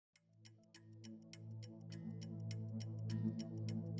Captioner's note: clock ticks